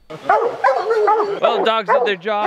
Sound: dogs barking

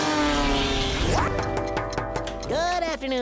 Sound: knocking

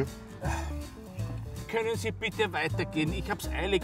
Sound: sigh

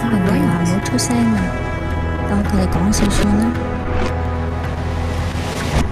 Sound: speaking foreign language

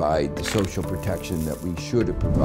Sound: pills spilling

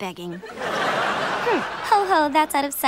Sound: laughing

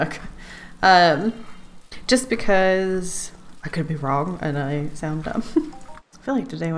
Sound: laughs

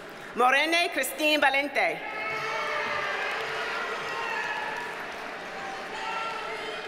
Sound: audience cheers and applauds

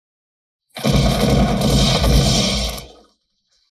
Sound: fires grenade launcher

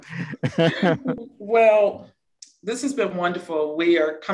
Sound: laugh

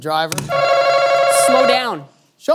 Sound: answer button rings

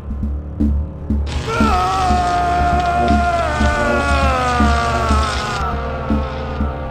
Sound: electric zapping; Leonard groaning

